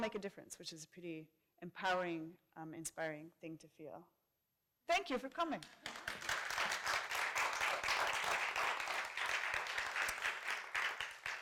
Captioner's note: applause